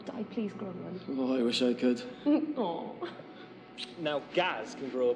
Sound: laughing

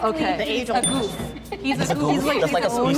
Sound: woman laughing

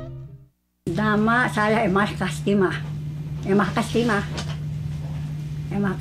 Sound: speaking in foreign language

